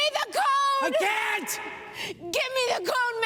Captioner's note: shouting